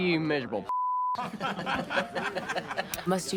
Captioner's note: laughing